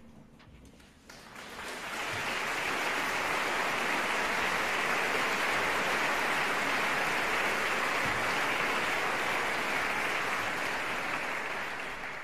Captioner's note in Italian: applauso